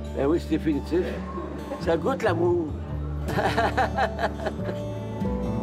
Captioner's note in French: rire